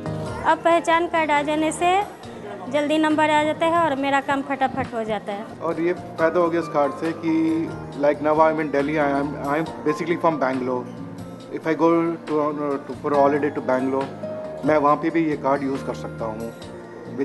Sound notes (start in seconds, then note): 0.2 non-english speech; 5.4 non-english; 15.5 non-english